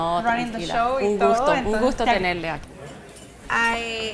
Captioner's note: speaks Spanish